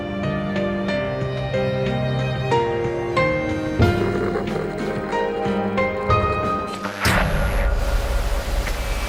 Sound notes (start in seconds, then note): 6.8 static interrupts music